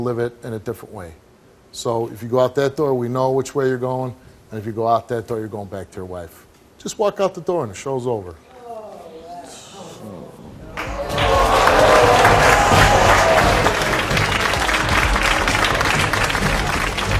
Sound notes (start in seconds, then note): 9.3 audience murmuring; 10.7 audience applauds; 14.2 intense music